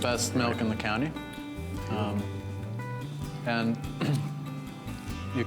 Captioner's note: clears throat